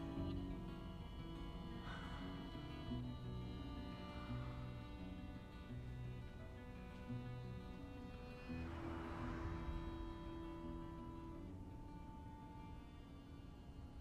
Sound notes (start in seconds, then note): 8.8 car passing; 11.3 somber music